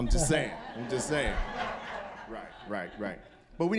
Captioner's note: audience laughing